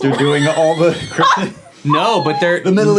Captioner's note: laughing